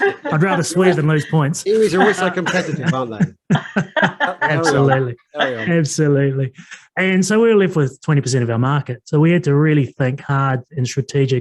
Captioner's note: everyone laugh